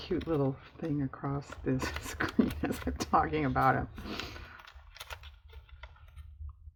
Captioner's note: laughs